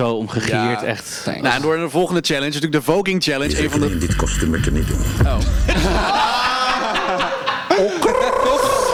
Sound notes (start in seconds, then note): 6.4 gaggles